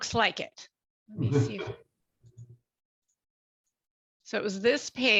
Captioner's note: group chuckling